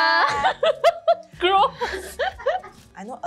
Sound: laughs

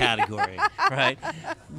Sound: laughter

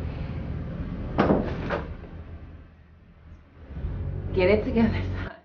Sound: door closes

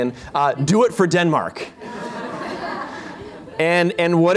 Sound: laughter

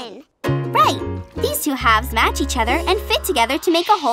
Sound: none

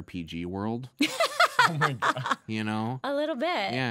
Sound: laughing

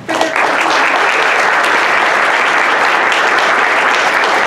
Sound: audience applause

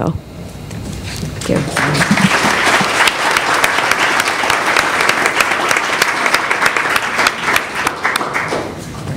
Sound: applause

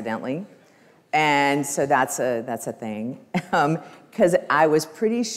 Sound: laughs

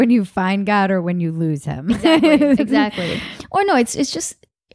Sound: laughs

